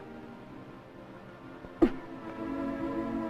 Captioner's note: coughing